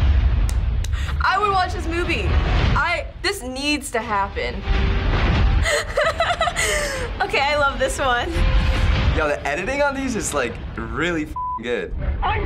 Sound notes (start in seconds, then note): 0.4 claps; 5.6 laughs